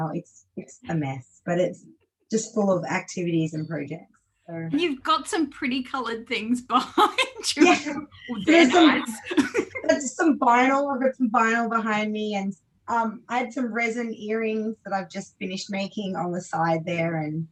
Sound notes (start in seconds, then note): 6.9 laughs